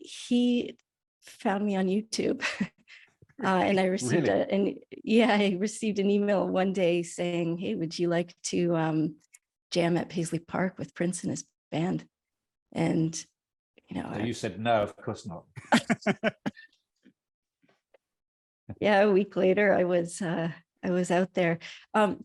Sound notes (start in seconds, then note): 3.8 laughs; 15.6 all laugh